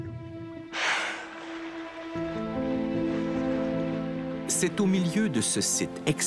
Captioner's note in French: souffle de la baleine